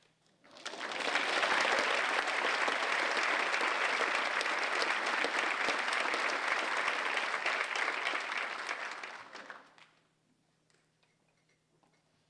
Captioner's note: applause